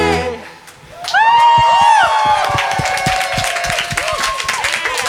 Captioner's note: crowd cheering